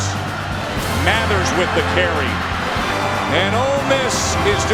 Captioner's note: voiceover